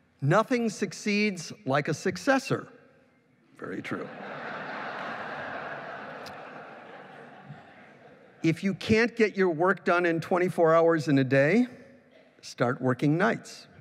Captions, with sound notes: Nothing succeeds like a successor, very true. [LAUGHING] If you can't get your work done in 24 hours in a day, start working nights.